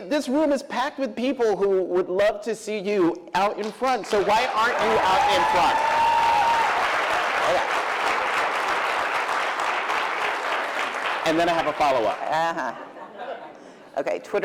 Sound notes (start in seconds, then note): 6.8 cheering